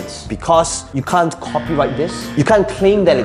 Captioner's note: buzzer blaring